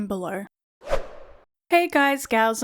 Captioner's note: whoosh Sound